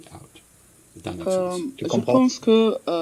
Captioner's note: answers in French